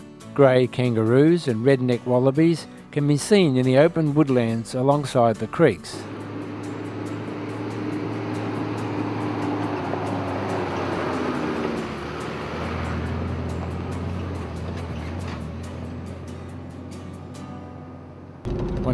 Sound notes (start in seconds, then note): 6.0 music background and vehicle sounds